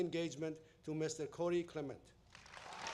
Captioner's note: applause